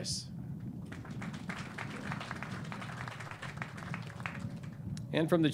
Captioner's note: clapping